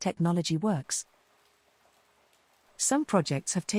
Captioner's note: rain splattering